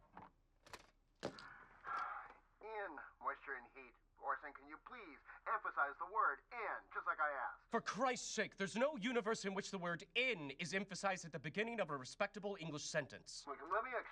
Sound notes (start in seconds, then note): 1.4 sighs